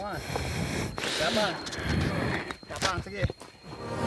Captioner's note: footsteps